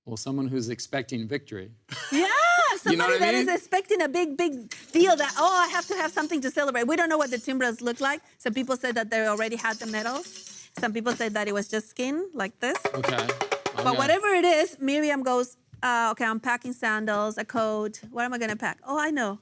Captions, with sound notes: - Well, someone who's expecting victory. - Yeah, somebody that is expecting a big, big deal that, Oh, I have to have something to celebrate. We don't know what the timbrels look like. Some people said that they already had the metal. Some people said that it was just skin like this. (a shaker rustling) but whatever it is, Miriam goes, Ah, okay, I'm packing sandals, a coat. What am I gonna pack?